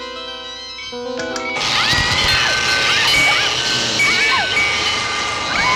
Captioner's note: zapping; screaming; clanking